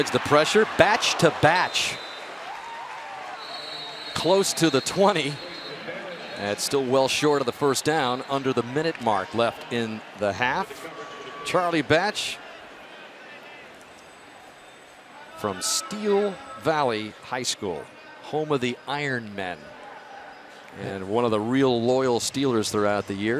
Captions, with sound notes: Batch avoids the pressure. Batch to Batch. [whistle] Close to the 20. And it's still well short of the first down under the minute mark left in the half. Charlie Batch from Steel Valley High School, home of the Ironmen, and one of the real loyal Steelers